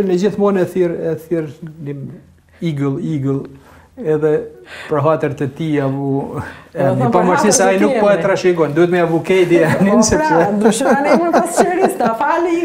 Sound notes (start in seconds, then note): 9.6 laughs